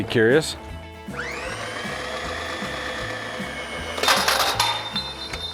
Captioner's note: machine whirring